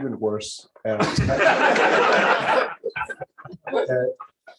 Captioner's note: laughter